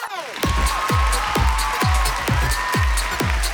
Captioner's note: cheering